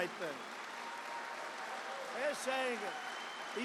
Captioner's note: applause